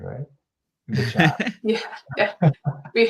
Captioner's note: laughs